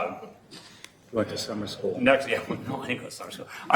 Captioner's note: chuckling